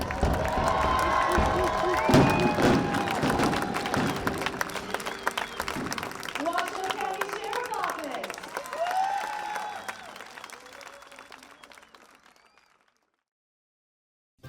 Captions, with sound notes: (fireworks pop) (applause continues) Waso County sheriff's office.